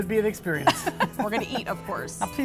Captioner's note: laughter